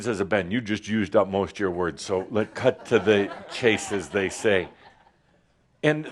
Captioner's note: some laughter